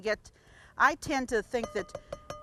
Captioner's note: spoon banging